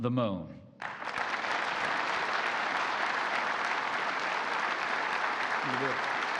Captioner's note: applause